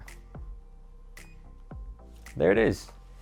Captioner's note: beeping